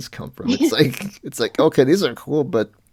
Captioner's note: laughs